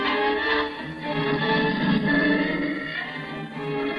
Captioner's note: growling